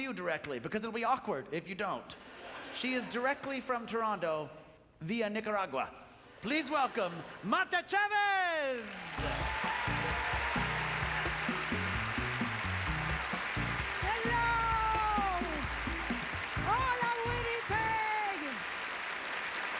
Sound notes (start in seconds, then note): 8.9 applause